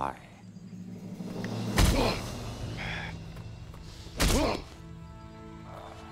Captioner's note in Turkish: Yumruk atma sesi